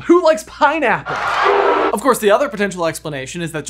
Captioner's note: crowd booing